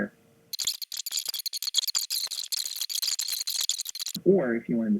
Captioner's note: squealing